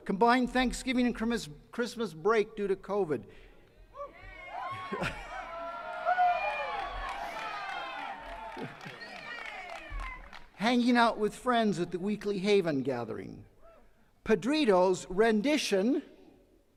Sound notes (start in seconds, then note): 3.9 attendees cheers and claps; 4.9 chuckles